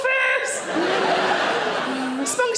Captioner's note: audience laughing